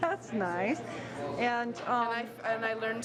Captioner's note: chuckles